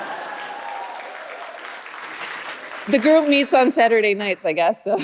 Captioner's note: audience cheering